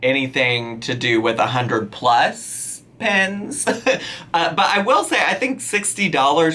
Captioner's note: laughing